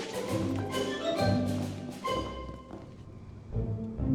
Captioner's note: footsteps